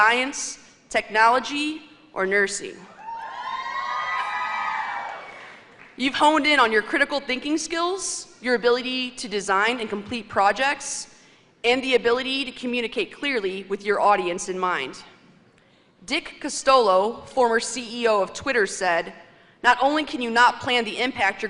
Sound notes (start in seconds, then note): 3.0 cheers and applause